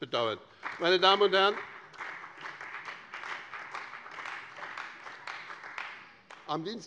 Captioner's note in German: Beifall bei dem BÜNDNIS 90/DIE GRÜNEN und der CDU